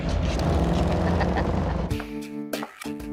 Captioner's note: Joe laughing